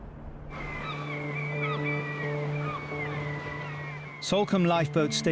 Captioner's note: seagulls squawk; dramatic music